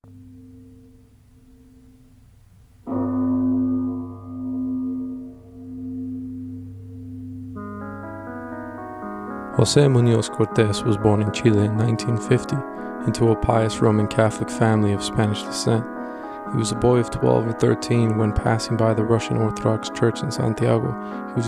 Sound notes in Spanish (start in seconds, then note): 2.9 Timbre de campana de la Iglesia